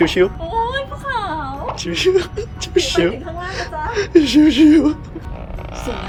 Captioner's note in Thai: สะอื้น